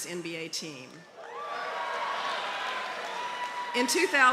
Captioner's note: cheering